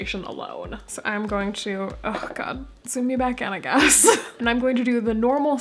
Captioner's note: laughing